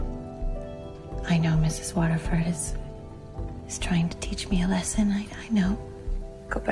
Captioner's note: voiceover